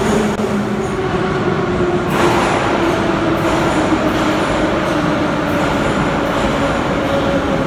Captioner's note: arrival of train at the station